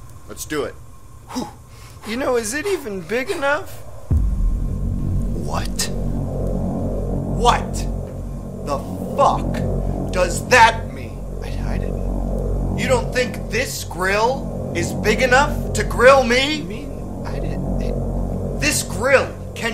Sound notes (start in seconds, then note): 1.2 hyperventilating